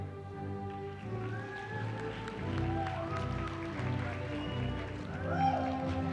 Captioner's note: cheering